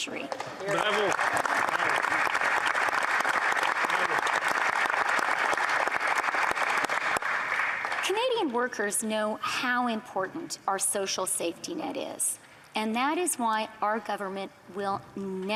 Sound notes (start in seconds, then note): 3.2 applause